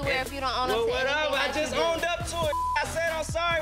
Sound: beep

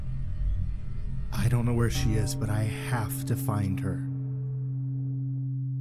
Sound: clock Chime

